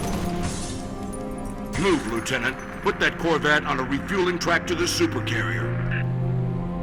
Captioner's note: radio